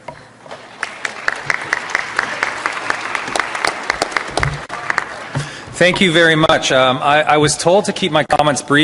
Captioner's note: applause